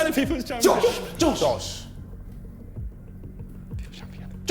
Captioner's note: men chattering